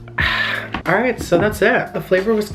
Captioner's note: loudly exhales